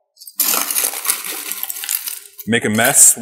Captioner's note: ice crashing